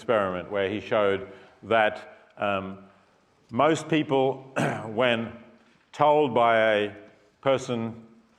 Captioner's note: cough